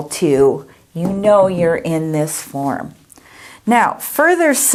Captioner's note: hand knocking board